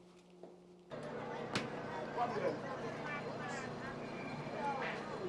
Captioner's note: crowd bustling